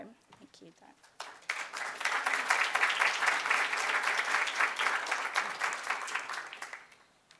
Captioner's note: applause